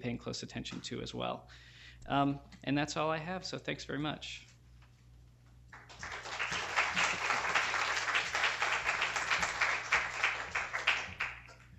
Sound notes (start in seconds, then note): 5.7 applause